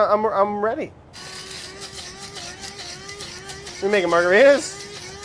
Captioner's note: grinder whirs